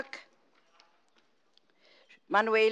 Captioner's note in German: none